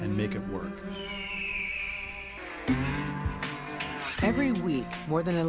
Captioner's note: eagle screams